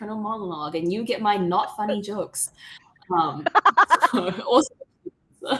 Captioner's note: laughing